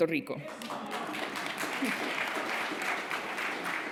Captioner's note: applause